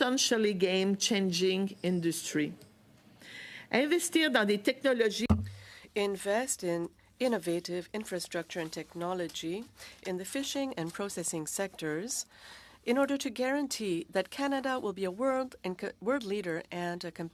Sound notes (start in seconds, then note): 9.1 speaking French